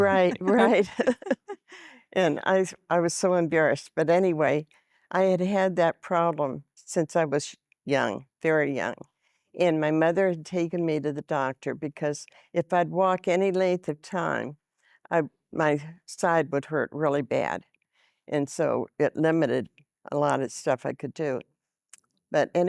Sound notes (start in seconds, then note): 0.0 giggling